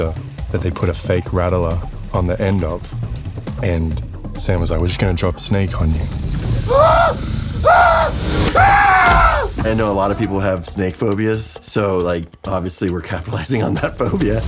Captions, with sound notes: that they put a fake rattler on the end of. And Sam was like, "We're just going to drop a snake on you." -(SNAKE RATTLING) -(NATE SCREAMS) I know a lot of people have snake phobias, so, like, obviously, we're capitalizing on that phobia.